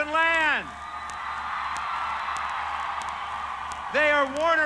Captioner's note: cheering